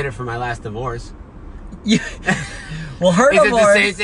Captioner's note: laughing